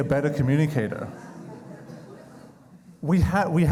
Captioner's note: crowd chuckling